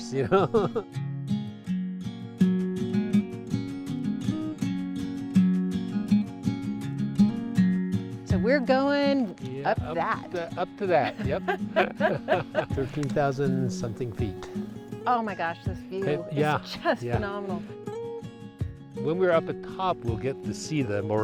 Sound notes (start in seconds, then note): 0.1 calming music; 11.0 both laughing